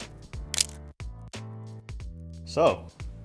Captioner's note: camera shutter clicks